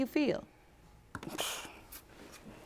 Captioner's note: scoffs